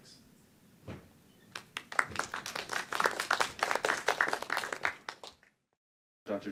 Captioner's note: applause